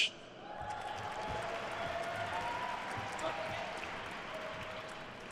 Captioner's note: attendees cheering and applauding